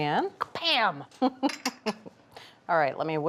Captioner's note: laughs